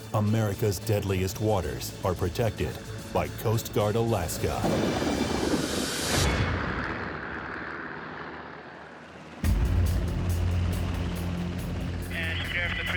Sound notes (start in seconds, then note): 6.6 helicopter blades whirring; 9.9 intense music